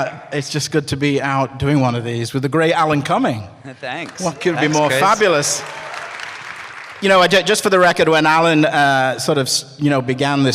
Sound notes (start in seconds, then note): 5.9 scattered cheers and applause